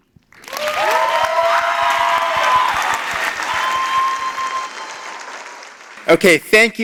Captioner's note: applause